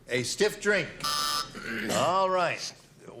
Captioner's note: buzzer